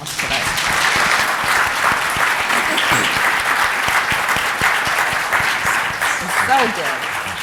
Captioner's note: applause